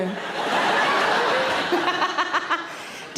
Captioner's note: audience laughing; laughs